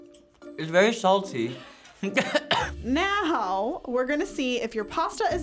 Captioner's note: coughs